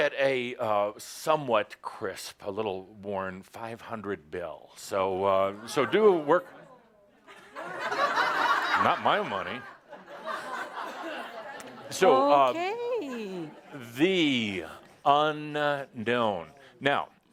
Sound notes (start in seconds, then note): 7.2 lots of laughter as makes a face